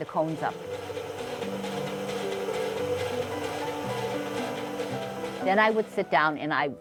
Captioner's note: sound of machine whirring; piano music continues